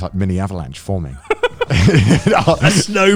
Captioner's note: laughs quickly